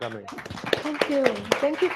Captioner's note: applause